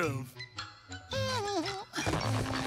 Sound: humming

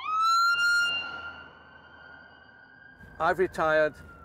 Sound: sirens wail

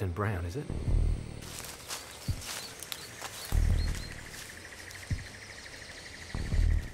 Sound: insects chirping; leaves rustling

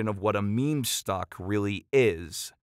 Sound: none

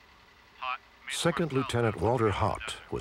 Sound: on phone

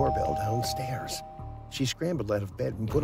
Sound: door Bell Rings

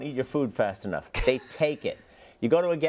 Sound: laugh

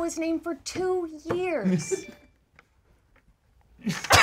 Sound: laughing

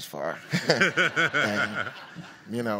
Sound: audience laughs

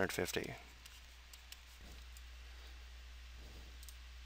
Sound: mouse clicking

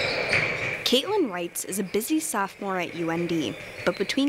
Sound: voiceover

